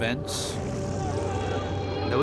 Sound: shouting

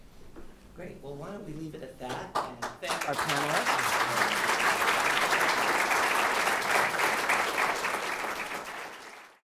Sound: background applause

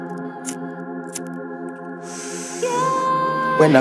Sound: lighter flicking

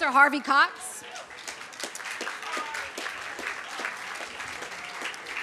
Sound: applause

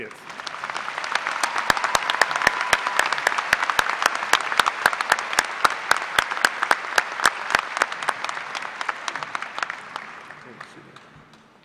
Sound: applause

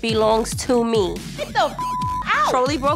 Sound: beep

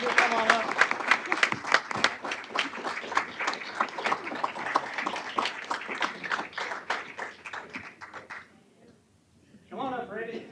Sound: applause

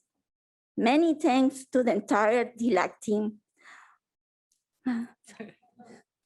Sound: sobs

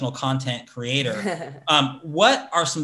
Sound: laughs

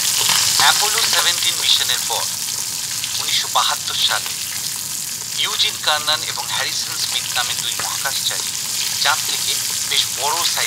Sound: television Voice-over

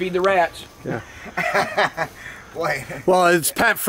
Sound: laughing

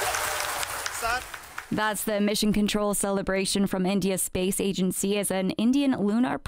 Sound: applause

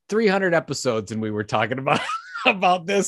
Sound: laughs

